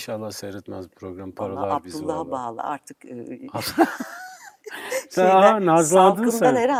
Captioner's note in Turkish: kahkaha